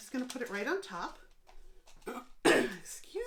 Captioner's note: clears throat